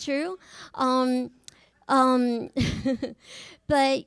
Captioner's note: chuckles